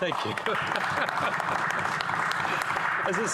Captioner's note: some Applause